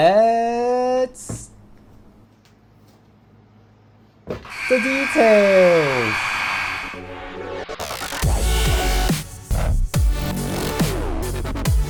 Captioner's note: score sound